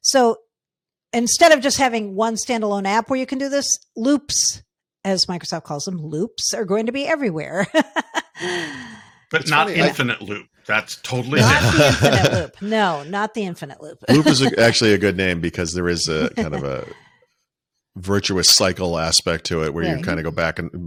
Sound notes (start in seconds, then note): 9.3 laughing